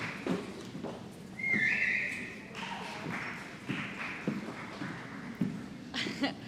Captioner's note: applause